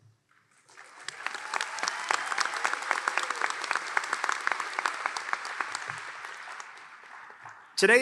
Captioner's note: applause